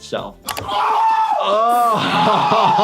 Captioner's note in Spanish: gritando; riendo